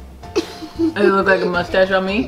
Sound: laughing

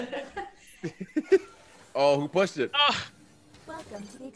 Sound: laugh

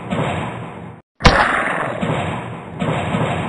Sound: zombie roar

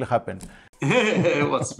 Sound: laughter

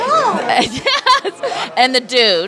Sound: laughter

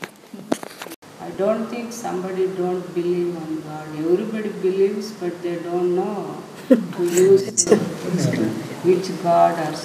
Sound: laughing

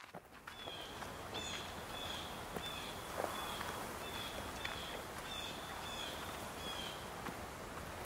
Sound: sound of people walking in the woods

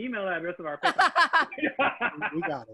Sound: laughter

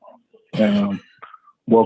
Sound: coughing noise

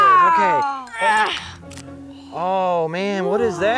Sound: grunting; ripping plastic

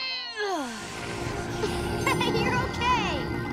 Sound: grunting; chuckles; grunting

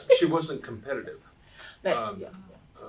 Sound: laughs

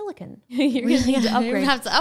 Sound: laughing

